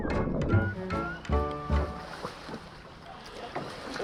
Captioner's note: water flowing